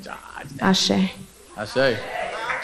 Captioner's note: applause